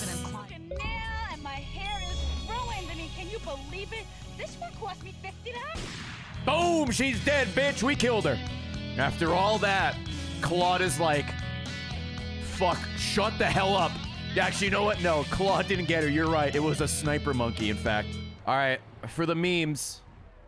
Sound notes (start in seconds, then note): 5.7 gunshot